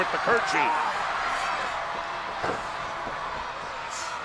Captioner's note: crowd yelling